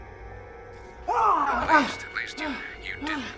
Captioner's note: Kenny screams